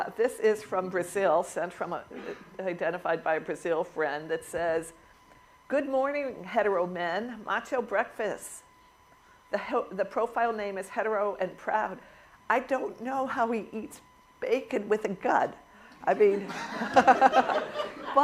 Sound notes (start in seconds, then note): 16.2 laughter